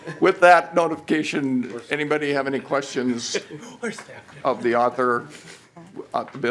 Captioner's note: laughing